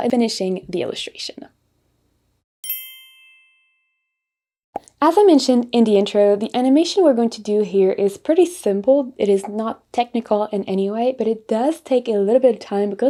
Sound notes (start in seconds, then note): 2.6 bell dings; 4.7 bubble pops